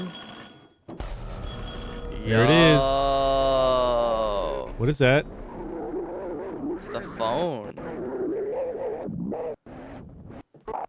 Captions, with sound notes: (phone ringing) Here it is. Oh. What is that? It's the phone.